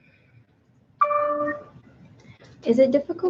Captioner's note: computer dings